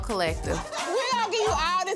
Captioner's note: laughter